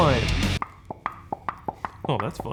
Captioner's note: jar popping